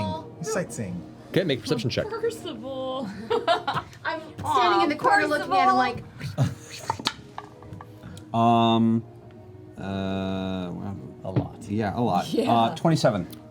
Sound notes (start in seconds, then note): 3.1 laughs; 6.6 whispers